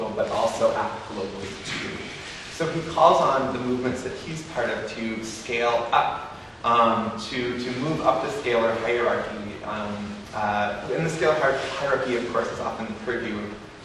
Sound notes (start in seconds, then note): none